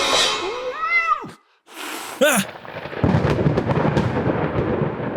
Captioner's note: yowl, hiss